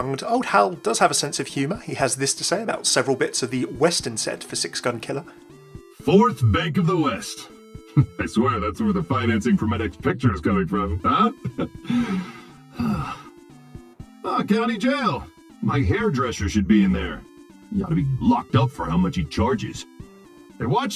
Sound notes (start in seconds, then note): 11.2 laughs; 11.3 sighs